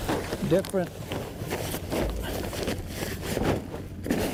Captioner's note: plastic rustling